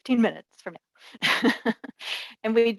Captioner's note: laughs